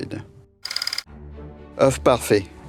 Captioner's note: slide rolling